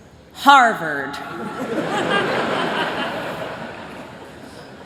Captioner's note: laughter